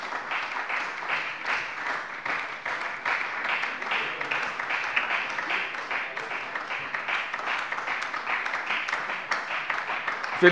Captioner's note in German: Beifall bei der FDP und der SPD